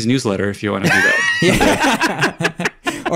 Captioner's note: all laugh